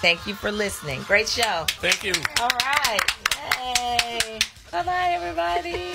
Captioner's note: claps